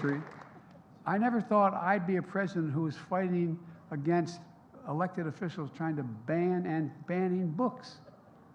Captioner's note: applause